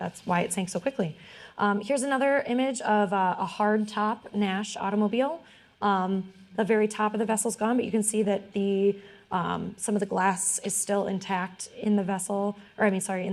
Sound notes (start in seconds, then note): none